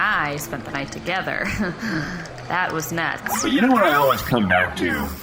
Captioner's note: laughs